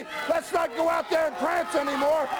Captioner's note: crowd chatter